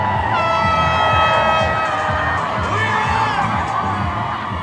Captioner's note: horn blows